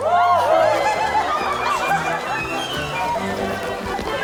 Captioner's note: group laughing